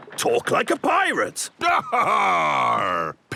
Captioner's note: giggles